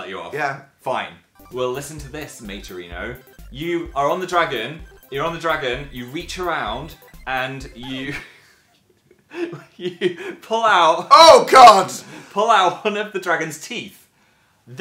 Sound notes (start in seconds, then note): 7.1 record scratch sound effect; 9.1 starts laughing